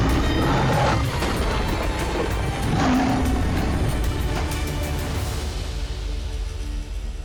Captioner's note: lion roaring